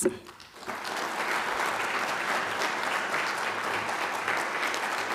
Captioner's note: applause